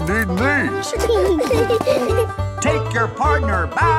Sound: laughing

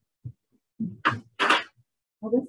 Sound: clacking sounds

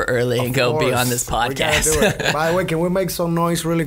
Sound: laughs

